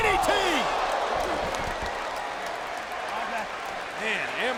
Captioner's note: applause